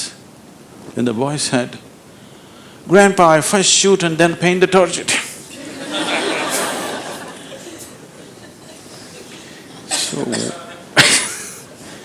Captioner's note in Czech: Smích